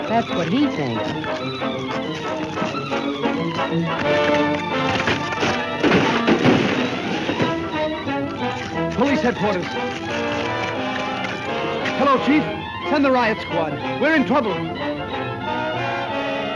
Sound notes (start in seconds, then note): 4.4 ice cracking